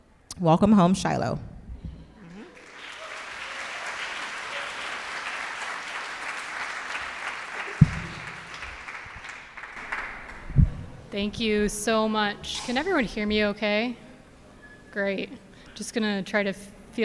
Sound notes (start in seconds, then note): 2.5 audience applauding